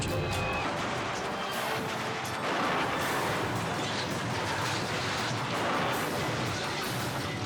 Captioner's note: dramatic music; car crashing